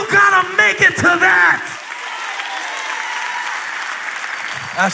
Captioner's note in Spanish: Aplausos